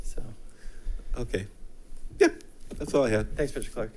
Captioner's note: laughs